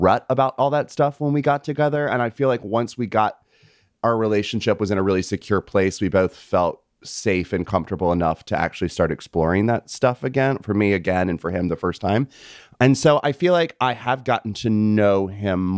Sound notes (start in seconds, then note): none